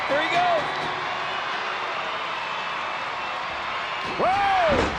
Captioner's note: crowd cheering